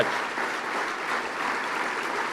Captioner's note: applause